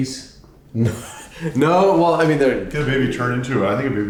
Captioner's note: laughs